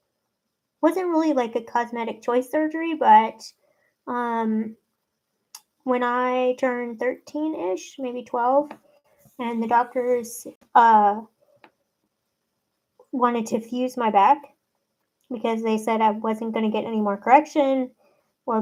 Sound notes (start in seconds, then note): none